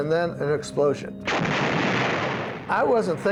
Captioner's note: explosion